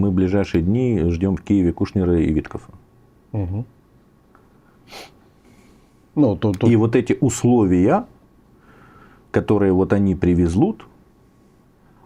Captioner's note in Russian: фыркает